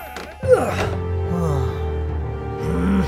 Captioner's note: Princess Oren laughs; The Squire sighs; dramatic music; The Squire grunts; The Squire groans